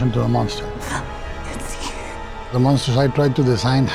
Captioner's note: gasps